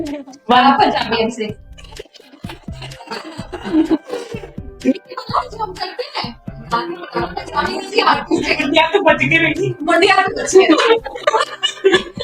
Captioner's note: laughter